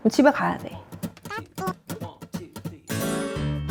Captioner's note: haha